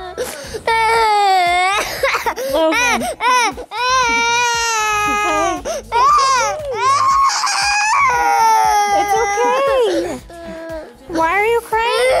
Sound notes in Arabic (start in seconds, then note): 0.2 يبكي